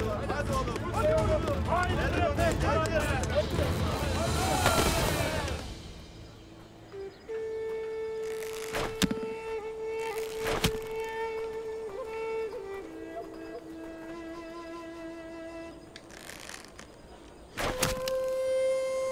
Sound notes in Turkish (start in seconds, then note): 4.0 Bağrışma sesleri; 8.6 Ok fırlatma sesi; 10.3 Ok fırlatma sesi; 17.6 Ok fırlatma sesi